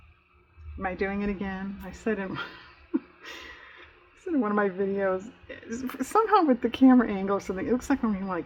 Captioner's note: laughs